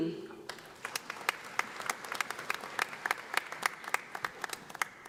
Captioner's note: audience applauding